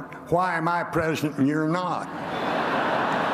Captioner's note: laughter